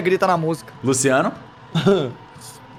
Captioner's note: cough